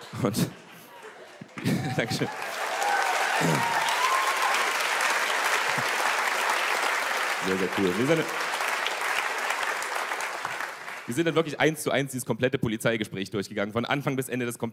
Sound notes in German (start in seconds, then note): 1.5 Gelächter; 3.1 Applaus und Jubel